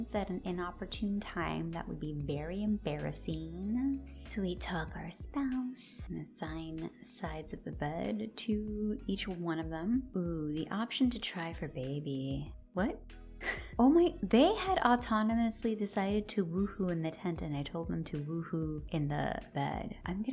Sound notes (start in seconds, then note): 13.4 confused laugh